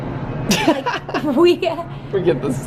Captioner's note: both laugh